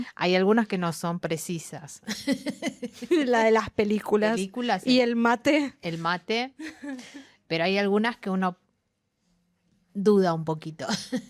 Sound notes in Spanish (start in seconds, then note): 2.0 risas